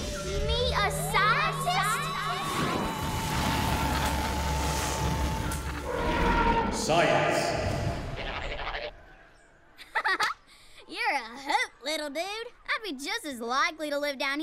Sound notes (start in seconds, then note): 5.8 roaring; 9.8 giggles